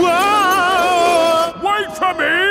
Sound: yelling

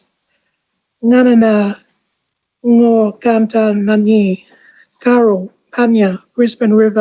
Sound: ngaanyatjarra language spoken

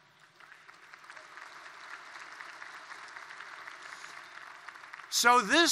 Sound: applause

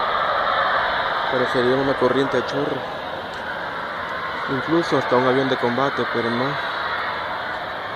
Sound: man speaking Spanish along with strange sound from the sky

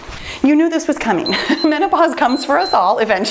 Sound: timer beeps

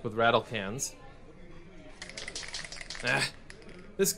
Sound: rattle can sound

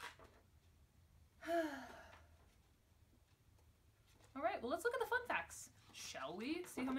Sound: large sigh

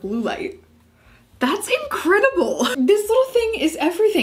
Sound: laughs softly

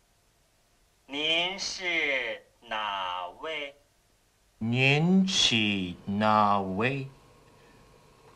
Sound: speaking Chinese

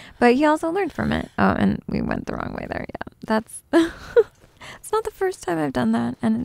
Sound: giggles

